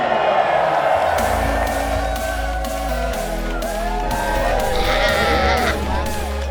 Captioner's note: crowd cheering; uplifting music